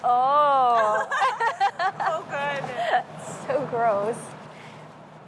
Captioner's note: laugh